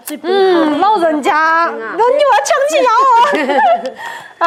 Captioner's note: laughter